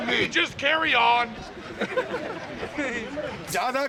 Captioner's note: laughter